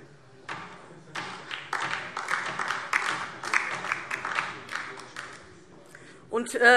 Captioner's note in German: Beifall DIE LINKE